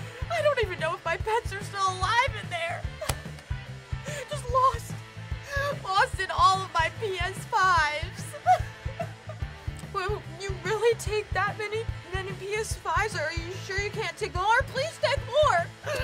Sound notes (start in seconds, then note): 8.2 sobs